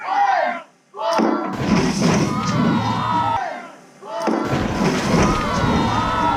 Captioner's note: Devil's Toothpaste explodes